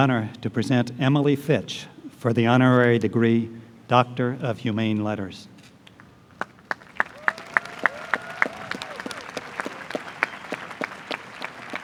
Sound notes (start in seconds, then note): 6.4 applause